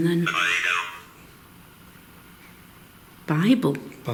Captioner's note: device speaking